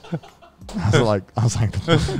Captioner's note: laughs